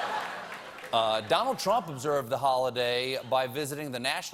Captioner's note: laughter